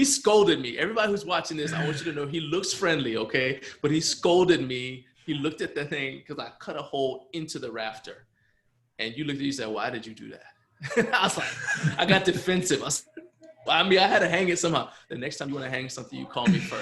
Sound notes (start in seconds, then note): 10.8 laughs